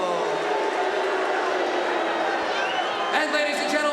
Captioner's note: audience booing